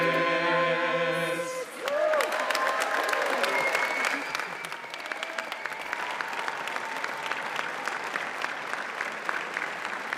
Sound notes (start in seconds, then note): 1.7 audience applauds